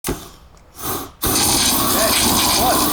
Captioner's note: flamethrower clicks, blasts